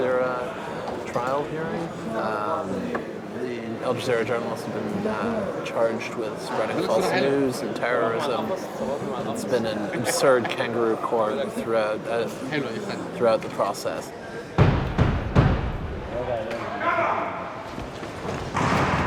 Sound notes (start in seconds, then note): 14.6 gavel banging; 15.6 man speaking Arabic